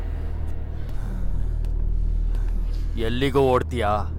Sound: sighs

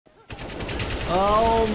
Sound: gun firing

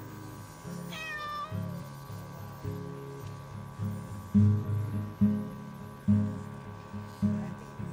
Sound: cat meows, a machine whirs and gentle music begins to play

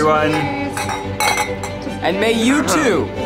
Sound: glasses clink

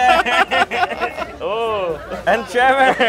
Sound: they laugh

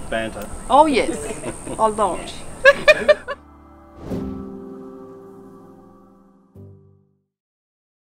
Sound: laughter

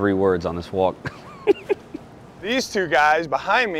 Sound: laughing

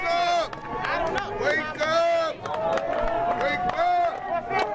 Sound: cheers and applause

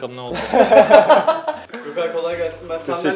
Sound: laughter

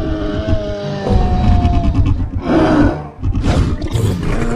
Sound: carcharodontosaurus Sounds

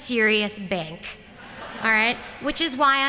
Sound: laughter

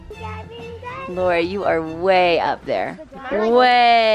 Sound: chatters

